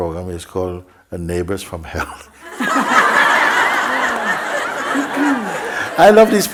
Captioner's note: laughter